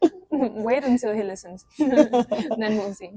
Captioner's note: laughs